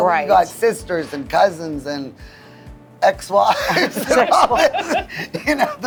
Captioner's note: laughs